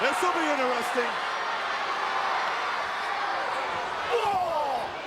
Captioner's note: crowd yelling